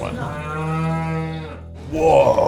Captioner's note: cow moos; triumphant music